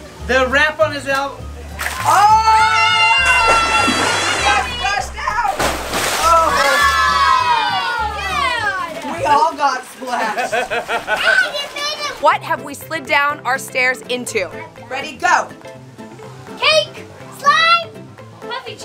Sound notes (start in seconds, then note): 3.1 splash; 10.2 laughing